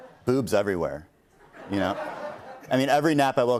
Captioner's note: laughter